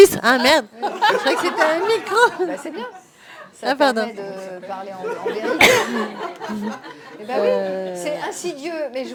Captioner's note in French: rires; rires